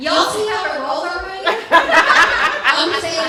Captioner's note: laughter